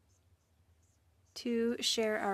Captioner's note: speaking French